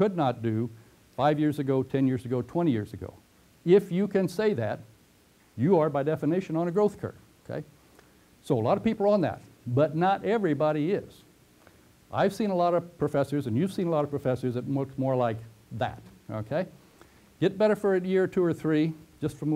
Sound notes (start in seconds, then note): 7.8 pause